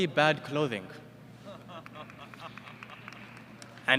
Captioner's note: laughter